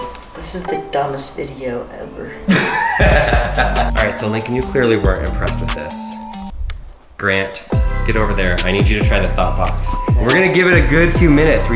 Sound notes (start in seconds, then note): 2.5 chortling; 7.7 upbeat music